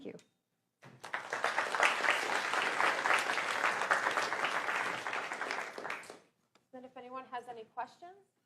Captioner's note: applause